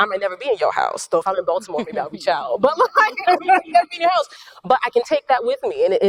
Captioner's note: laughs